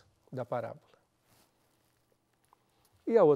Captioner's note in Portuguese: pausa sonora